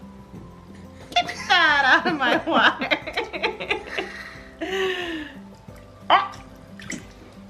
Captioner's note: laughs